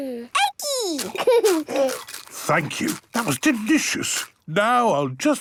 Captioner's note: laughing, crunching